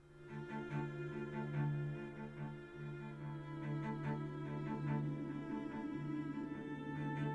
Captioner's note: dramatic orchestral music; wind whirring